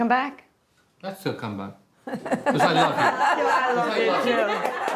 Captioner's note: laughter